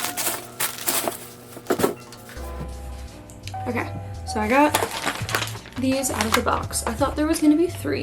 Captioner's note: lots of packing material crumbling noises